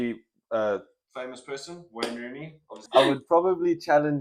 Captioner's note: clap